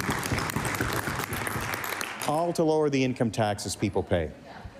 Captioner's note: cheering/applause